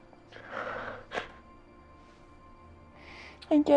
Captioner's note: Rue sobs